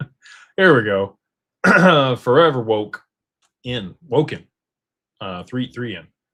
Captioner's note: clears throat